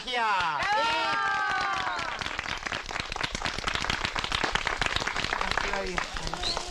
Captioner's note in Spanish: Aplausos